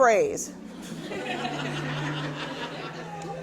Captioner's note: laughing